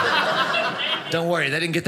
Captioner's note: audience laughing